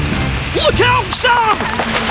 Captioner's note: loud Cracking